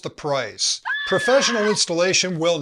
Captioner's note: scream